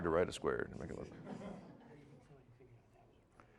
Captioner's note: audience laughing